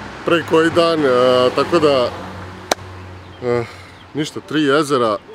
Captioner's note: clap hands